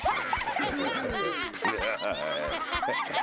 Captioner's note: raucous laughter